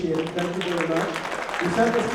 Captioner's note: applause